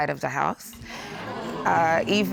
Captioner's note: audience gasps